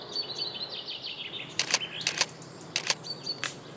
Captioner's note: camera clicks